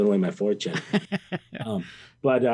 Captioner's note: chuckles; interviewer laughs